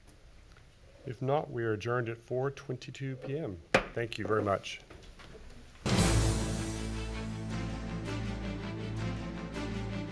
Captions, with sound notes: If not, we are adjourned at 4:22 p.m. (gavel banging) Thank you very much. (dramatic instrumental music)